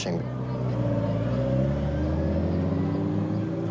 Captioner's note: engine purrs